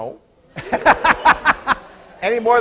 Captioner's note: laughing